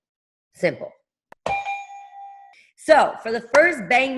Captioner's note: bell ringing